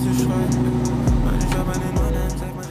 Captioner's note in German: Motorbrummen